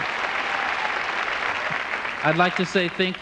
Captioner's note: applause